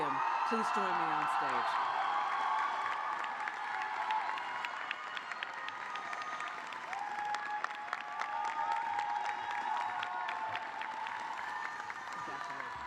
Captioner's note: cheers and applause